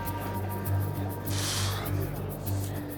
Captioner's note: exhales